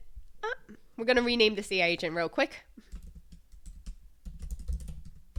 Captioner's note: typing